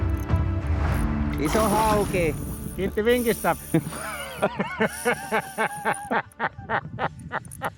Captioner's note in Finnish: naurua